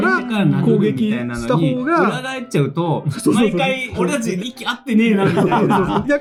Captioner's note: laughs